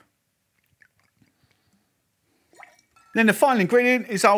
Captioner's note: pouring liquid